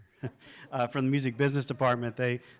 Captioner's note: everyone laughs